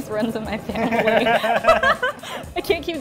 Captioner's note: both laughing